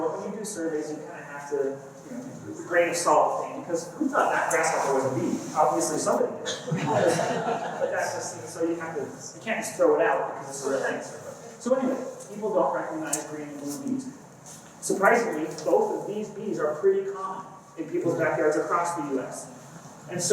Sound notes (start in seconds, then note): 6.5 laughter